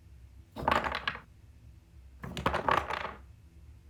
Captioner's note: blocks falling down